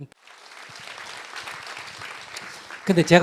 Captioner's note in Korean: 청중박수